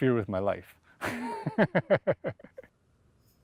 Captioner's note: laughter